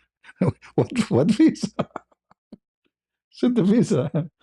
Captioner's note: ketawa